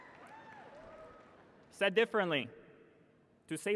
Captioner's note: laughter and applause